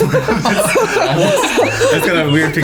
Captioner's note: laughing